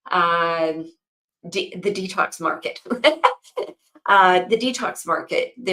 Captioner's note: laughs